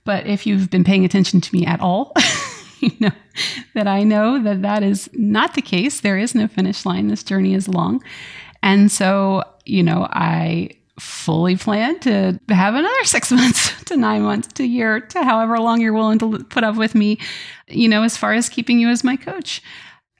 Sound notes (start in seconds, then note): 1.8 laughs